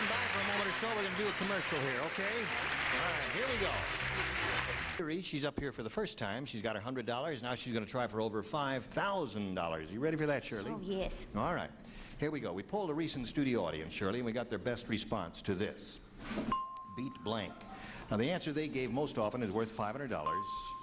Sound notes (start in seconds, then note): 0.0 applauding